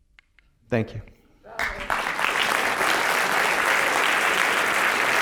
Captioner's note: applause